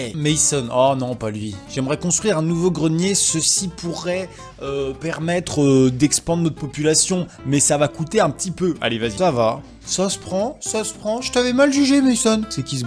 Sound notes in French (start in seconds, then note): none